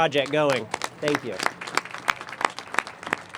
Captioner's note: applause